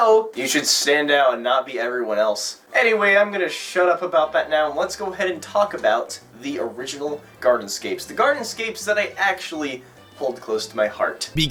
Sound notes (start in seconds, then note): none